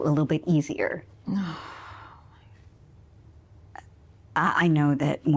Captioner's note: Nora groans